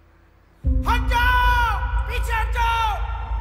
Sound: shouting

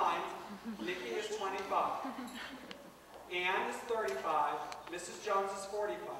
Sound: laughter

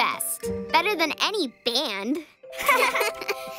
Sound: all chuckling

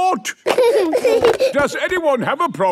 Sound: giggling

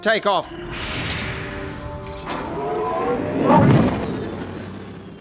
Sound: Blizzard takes off

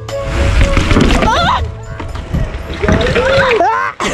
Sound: screams

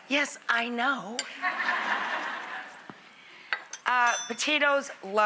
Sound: laughter

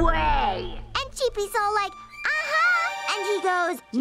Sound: deep voice; high-pitched voice; deep voice

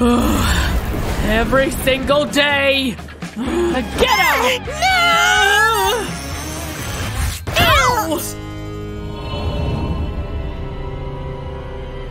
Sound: making sad sounds

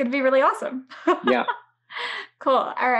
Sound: laughs

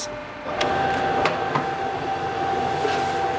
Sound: machine whine

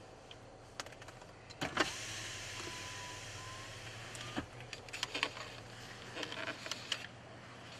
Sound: car window opening

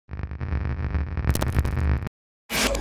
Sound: Static

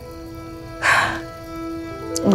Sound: chuckles

